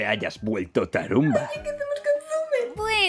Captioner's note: quietly